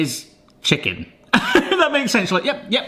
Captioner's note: laughs